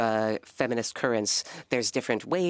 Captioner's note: speaking French